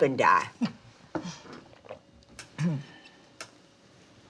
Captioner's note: Dory chuckles